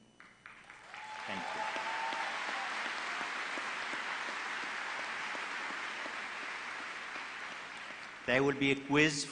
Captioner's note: applause